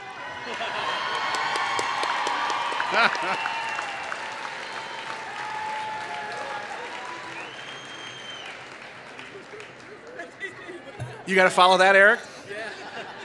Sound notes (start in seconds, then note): 0.2 laughter; 3.2 applause